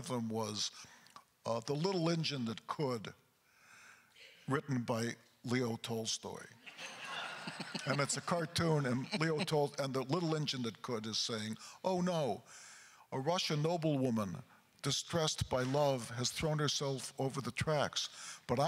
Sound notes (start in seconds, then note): 6.7 chuckles; 6.7 crowd laughter